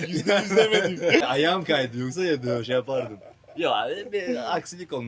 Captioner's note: laughs